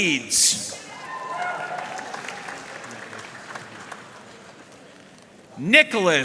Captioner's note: audience cheering and applauding